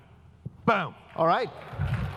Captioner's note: applause